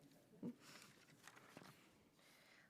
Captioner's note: shuffling papers